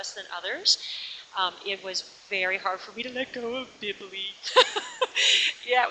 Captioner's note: laughs